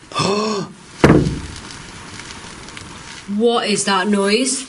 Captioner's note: gasps; static buzz